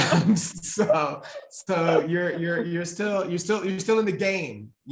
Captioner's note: pair laughing